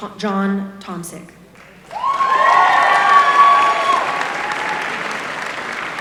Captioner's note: applause